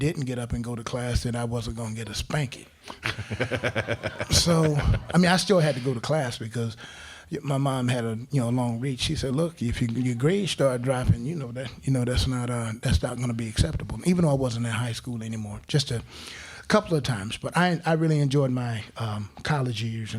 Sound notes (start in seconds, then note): 3.0 crowd laughing